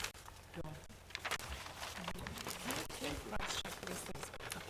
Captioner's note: board chatting quietly